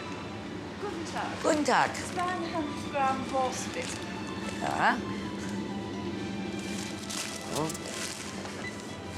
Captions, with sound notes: - Guten tag. - Guten tag. - (speaks foreign language) - All right. (bland music)